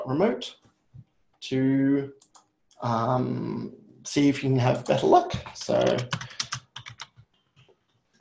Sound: typing

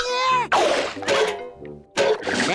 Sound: clanging

